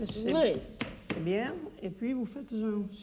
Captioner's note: speaking French